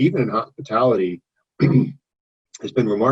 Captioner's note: clears throat